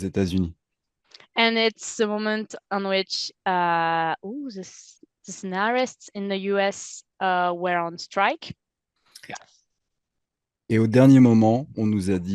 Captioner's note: translating from French